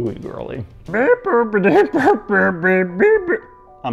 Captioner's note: goofy moaning